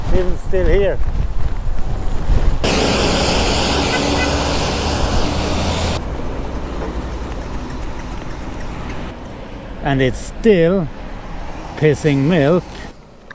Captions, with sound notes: Even still here. [wind] And it's still pissing milk.